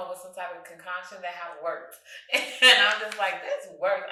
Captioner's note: chuckles